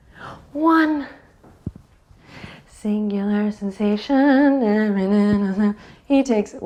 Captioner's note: humming